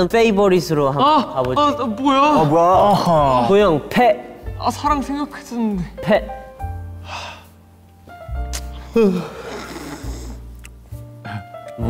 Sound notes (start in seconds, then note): 8.7 yawning